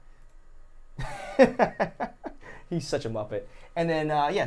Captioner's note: laughing